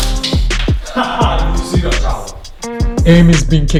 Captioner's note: laughs